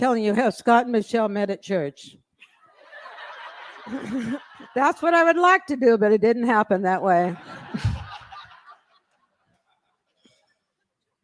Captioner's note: laughter